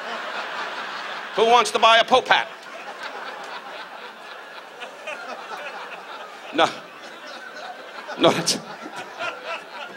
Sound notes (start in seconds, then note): 0.2 audience laughs; 3.3 audience laughs